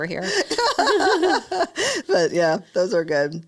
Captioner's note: laughing